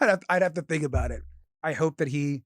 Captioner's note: none